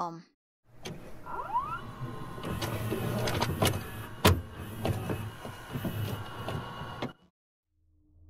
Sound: VHS noises

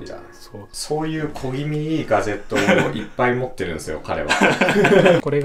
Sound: laughs

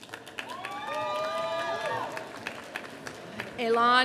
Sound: audience applauding

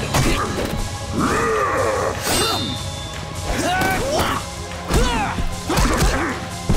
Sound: grunting

